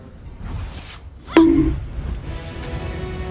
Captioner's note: bonk